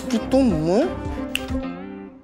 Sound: finger snapping

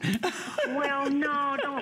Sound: laughter

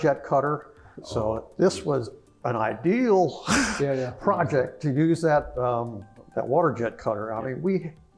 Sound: laugh

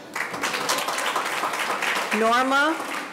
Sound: audience applauding

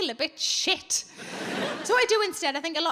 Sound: audience laughing

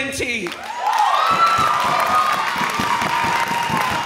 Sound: audience cheers

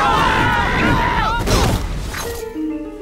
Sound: screaming; grunting

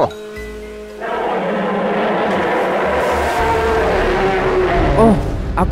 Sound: Kyuubi's roar

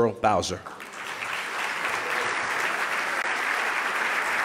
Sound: loud clapping

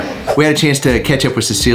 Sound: screen swooshes

